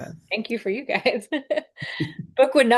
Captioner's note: laughs